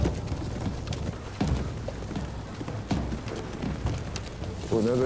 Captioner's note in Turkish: At nalı sesleri